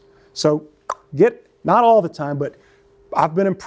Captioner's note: clicks tongue